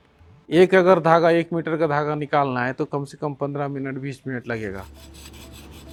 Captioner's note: speaking foreign language